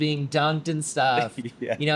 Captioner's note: chuckles